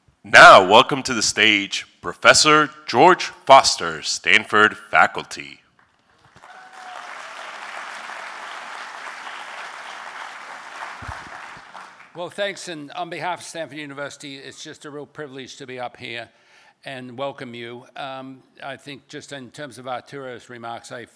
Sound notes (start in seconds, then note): 5.8 applause